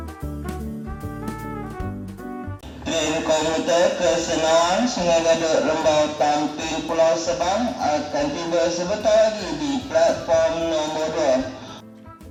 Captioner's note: station announcement